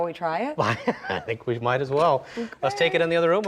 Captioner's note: laughing